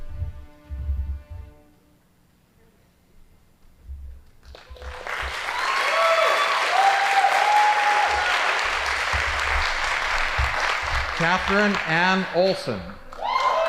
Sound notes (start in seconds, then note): 0.2 band playing; 5.0 audience applauding